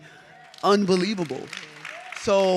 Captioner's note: audience clapping